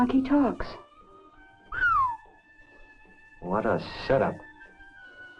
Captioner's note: whistles